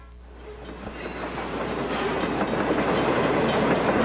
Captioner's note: train whirs